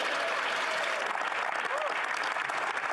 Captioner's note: speaking French